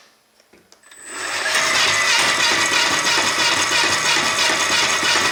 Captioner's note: motor whirring